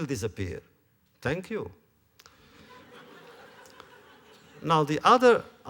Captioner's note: laughter